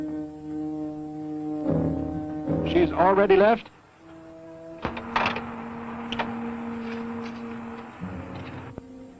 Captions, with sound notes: Has she already left? [ PHONE DIALING ]